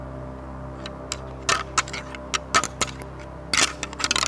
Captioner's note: antlers rattling